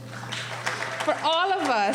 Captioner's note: applauding